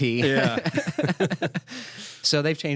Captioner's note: laughter